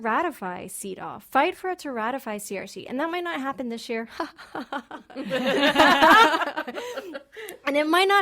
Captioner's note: laughing